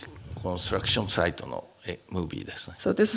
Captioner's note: speaking japanese